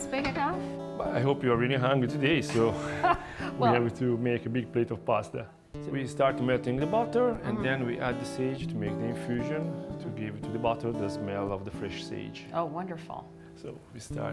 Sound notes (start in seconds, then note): 2.5 laughs